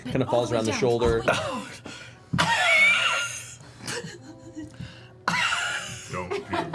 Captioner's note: coughs